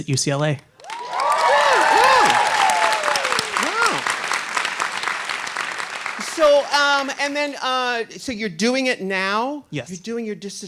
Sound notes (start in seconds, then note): 0.8 audience cheering